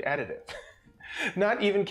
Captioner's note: laughs